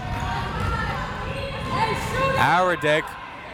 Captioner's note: crowd members shouting